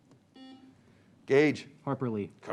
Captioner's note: beep